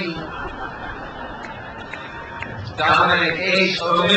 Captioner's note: crowd laughs